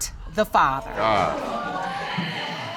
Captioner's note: audience exclaims